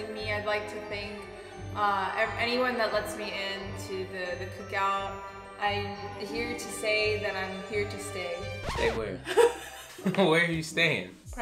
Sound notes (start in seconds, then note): 8.6 record scratching; 9.2 laughing